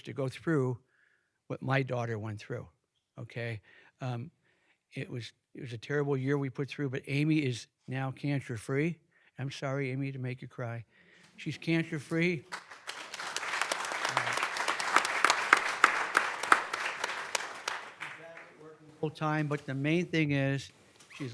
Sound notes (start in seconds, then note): 11.8 audience clapping